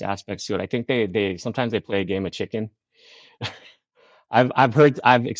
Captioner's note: chuckles